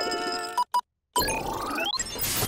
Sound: beeping

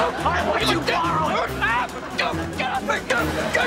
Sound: grunting; grunting

